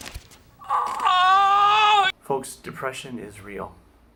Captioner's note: screams in pain